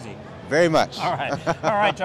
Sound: laughing

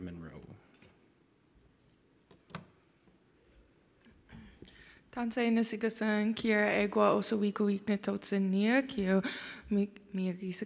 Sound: foreign language

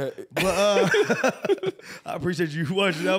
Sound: laughing

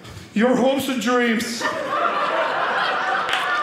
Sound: audience laughing

